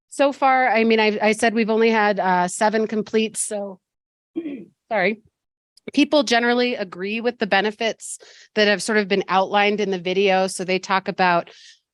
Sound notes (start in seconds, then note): 4.4 clears throat